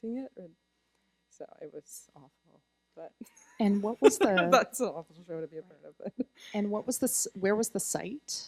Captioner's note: laughter